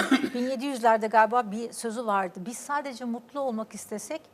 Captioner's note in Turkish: boğazını temizler